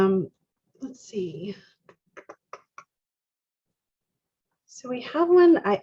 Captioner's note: clicks teeth